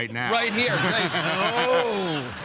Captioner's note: Jeff and audience laugh